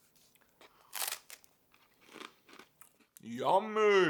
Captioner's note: ice cream crunching